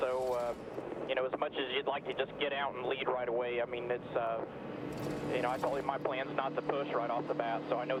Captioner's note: radio